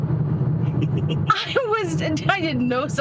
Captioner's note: laughing